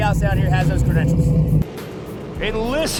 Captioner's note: engines revving